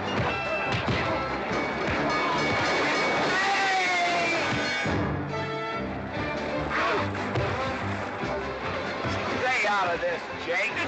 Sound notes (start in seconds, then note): 1.5 train bell ringing; 4.5 sounds of scuffling & fighting; 4.5 western fight music